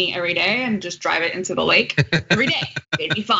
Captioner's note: laugh